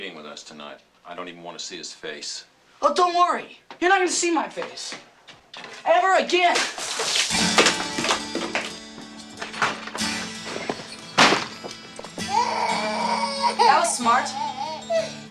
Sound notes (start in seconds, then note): 12.1 baby cries